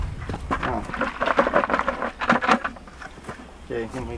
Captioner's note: shaking bucket with carrots and water